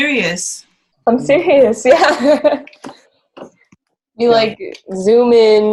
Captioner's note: laughs